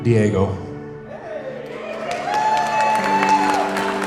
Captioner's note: crowd cheers